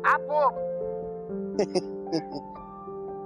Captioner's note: chuckle